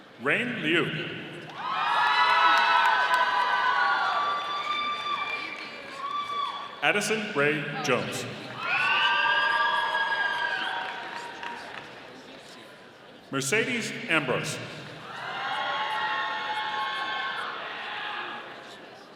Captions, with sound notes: Rayne Liu. (audience applauding) Addison Rae Jones. (audience applauding) Mercedes Ambrose. (audience cheering)